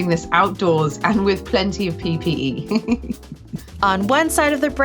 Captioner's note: giggles